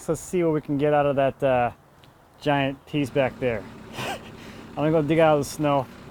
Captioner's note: laughs